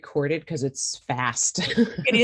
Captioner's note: laughs